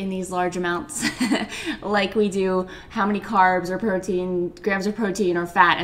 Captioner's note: laughs